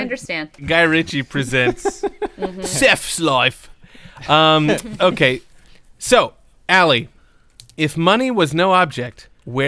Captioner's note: Jason Statham voice